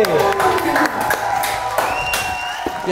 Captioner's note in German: Jubel, Applaus